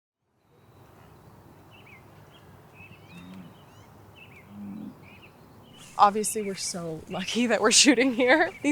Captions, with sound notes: [birds chirping] [bison grunting] - Obviously, we're so lucky that we're shooting here